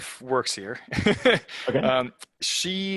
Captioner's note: laughs